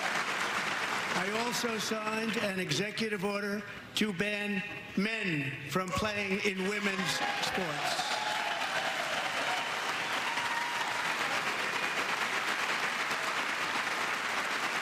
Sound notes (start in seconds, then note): 8.9 applause